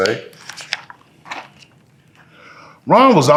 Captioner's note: pages rustling